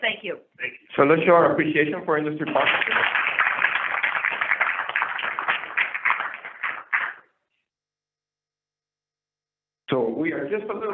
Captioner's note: applause